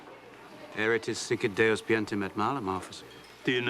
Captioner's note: speaking latin